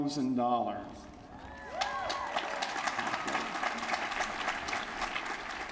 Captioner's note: applause